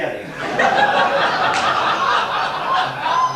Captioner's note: laughter